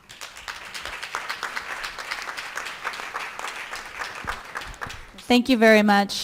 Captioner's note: applause